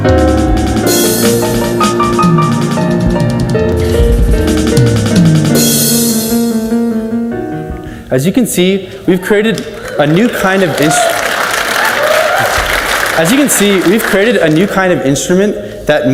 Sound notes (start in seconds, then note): 11.3 audience cheers and applauds